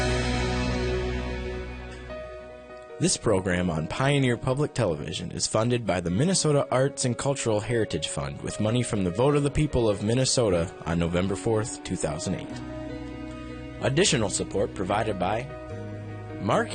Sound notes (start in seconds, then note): 3.1 voiceover